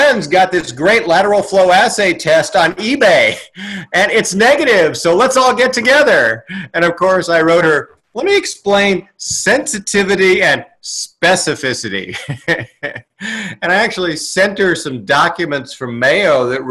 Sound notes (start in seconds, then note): 12.0 laughs